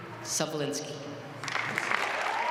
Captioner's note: applause